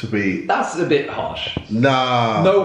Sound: none

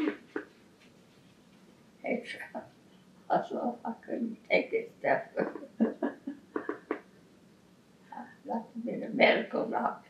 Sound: laughs

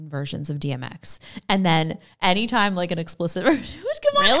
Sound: laughs

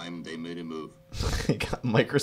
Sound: snickers

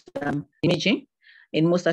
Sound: audio distorts

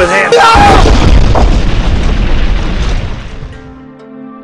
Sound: explodes

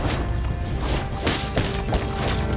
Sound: smashing

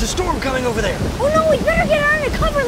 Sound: thunder rolls

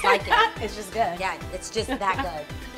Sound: laughing

